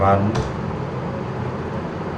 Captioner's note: triangle generator